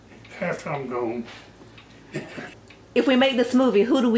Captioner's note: laughs